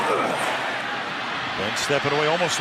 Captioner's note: cheering